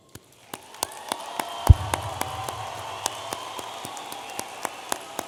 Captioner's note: audience applauding and cheering